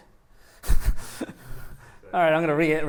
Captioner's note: laughs